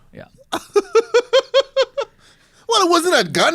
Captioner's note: laughs